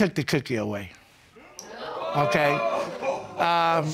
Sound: audience gasping

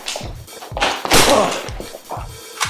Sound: bang!

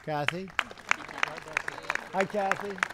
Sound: applause

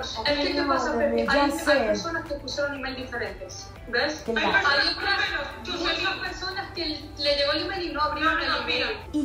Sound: muffled conversation

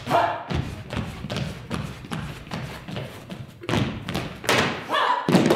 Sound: stomping

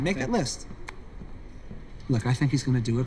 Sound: footsteps

